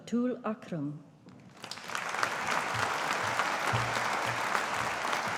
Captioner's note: audience applauding